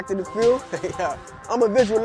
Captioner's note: laughs